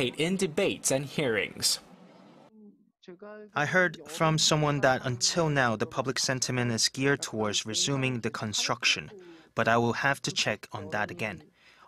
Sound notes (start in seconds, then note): 1.9 Korean